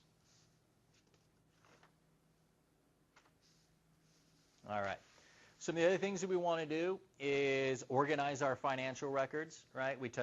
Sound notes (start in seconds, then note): 1.5 shuffling items